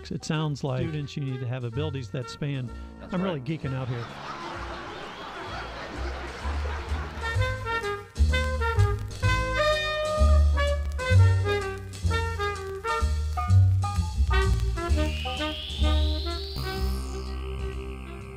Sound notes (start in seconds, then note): 3.1 applause and laugh track; 6.6 big band swing